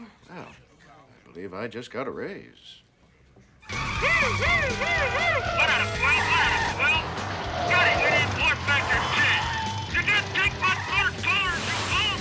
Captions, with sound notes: WELL, I BELIEVE I JUST GOT A RAISE. [IMITATING SIREN] 1-ADAM-12. 1-ADAM-12. SCOTTIE, WE NEED WARP FACTOR 10! [SHOUTING]